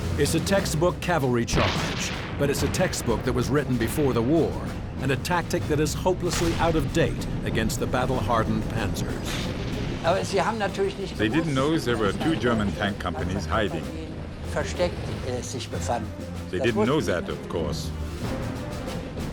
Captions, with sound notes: It's a textbook cavalry charge, but it's a textbook that was written before the war and a tactic that is hopelessly out-of-date against the battle-hardened Panzers. (speaking in foreign language) - They didn't know there were two German tank companies hiding. (speaking in foreign language) They didn't know that, of course.